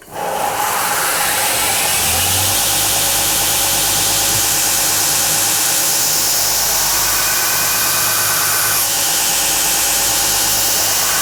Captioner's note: grinding